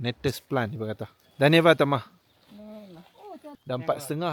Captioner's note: speaking Nepali